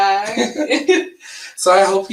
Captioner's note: chuckle